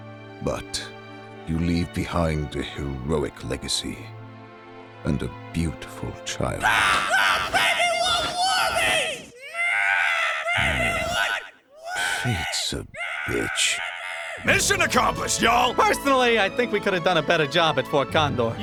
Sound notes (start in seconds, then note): 6.6 squawking; 9.3 baby condor screeches; 9.9 sighs